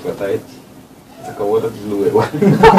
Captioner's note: laughs